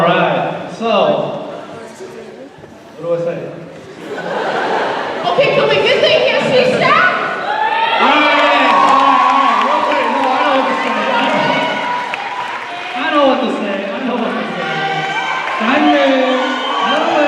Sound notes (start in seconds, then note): 3.9 laughter; 6.8 cheers and applause